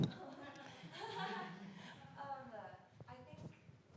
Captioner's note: audience laughing